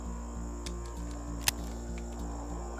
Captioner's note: suspensful music; click